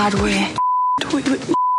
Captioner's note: beeps